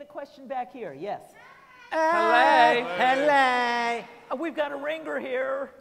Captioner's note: all hello using funny voices